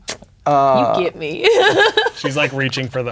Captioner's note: laughing